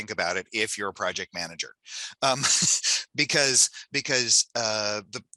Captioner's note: laughs